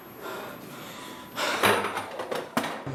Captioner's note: gasping